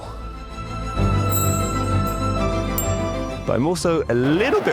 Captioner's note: tense music continues; graphic chimes